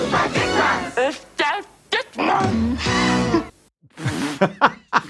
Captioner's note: man sings in German; woman speaks in German; laughs